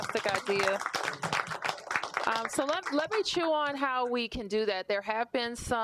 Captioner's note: applause